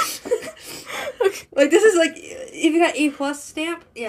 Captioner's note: laughs; stutter